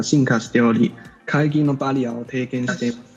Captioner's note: non-English